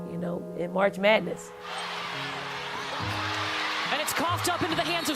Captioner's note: cheering